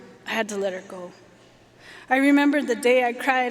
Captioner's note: none